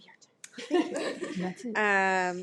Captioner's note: trustees laugh